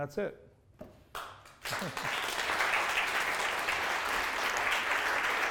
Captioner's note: audience applauds